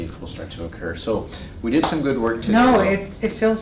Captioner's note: claps